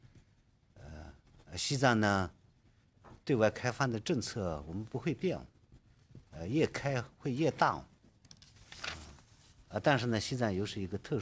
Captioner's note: speaking Alternate Language